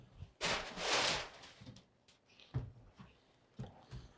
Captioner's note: paper rustles